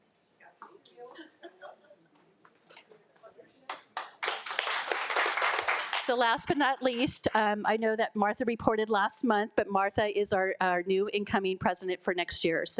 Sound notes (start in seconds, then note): 1.1 laughs; 3.7 attendees applaud; 3.7 group chattering faintly